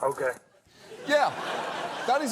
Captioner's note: audience laughs